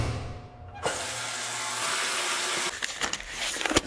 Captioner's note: water running